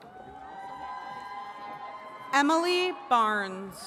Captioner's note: attendees cheering